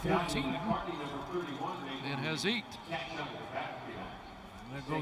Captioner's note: whistle